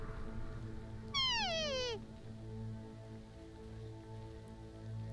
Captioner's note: animal call